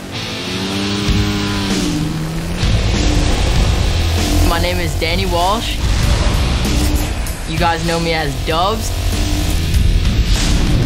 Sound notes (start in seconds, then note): 5.6 sfx rocket blast; 10.6 nat sound motorcylcel acceleration and music